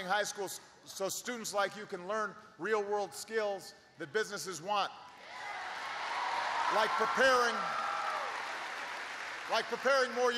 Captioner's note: applause